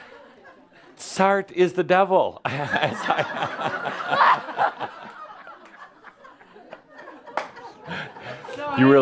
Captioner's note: more laughter